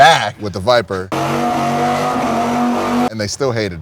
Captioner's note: engine revving